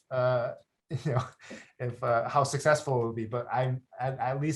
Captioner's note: chuckles